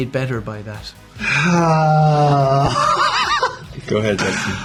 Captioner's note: sighs; laughs